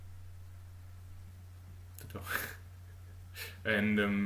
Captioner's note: laugh